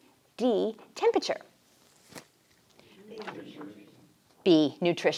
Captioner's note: group chatter